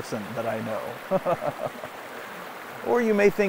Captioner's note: laughs